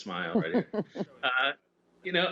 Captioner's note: laughter